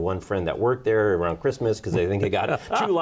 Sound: laughs

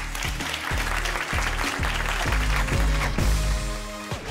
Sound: audience applauding

